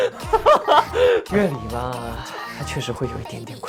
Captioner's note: still such powerful laughter